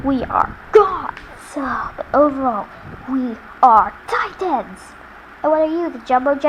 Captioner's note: Oort Cloud sighs